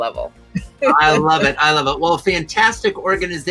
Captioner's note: laughs